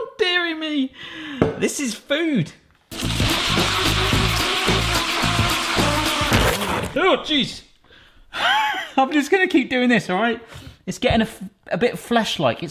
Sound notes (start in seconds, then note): 2.9 whimsical music; 3.0 whizzing; 8.6 laughing